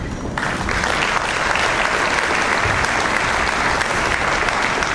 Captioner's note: audience applauds